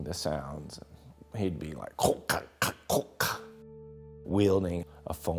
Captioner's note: speaking in Klingon